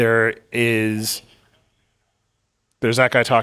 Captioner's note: attendee chattering